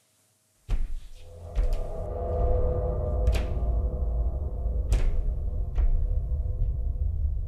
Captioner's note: distant footsteps